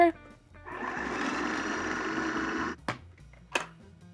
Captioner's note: blender whirring